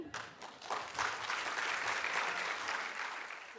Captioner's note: applause